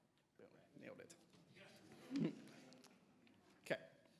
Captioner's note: everybody laughing